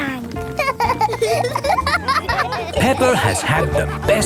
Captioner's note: laughing